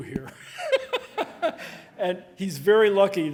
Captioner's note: laughing